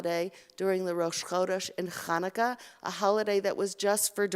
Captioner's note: Hebrew